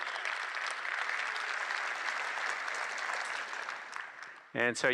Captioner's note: applause